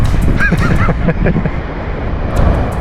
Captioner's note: laughing